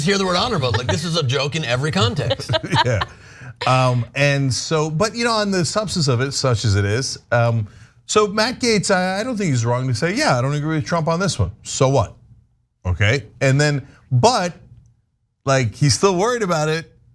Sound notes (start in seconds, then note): 3.1 laugh